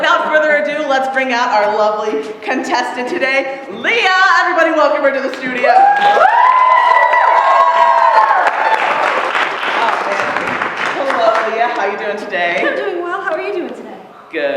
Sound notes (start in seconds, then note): 5.7 cheering; 6.0 applause